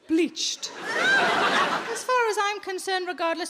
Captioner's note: audience laughs